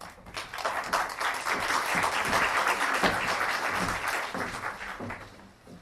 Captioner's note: applause